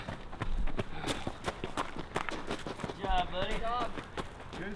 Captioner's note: panting